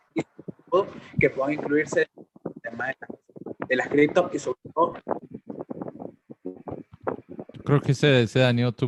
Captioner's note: mic noise